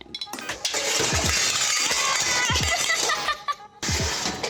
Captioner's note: drops cooking utencils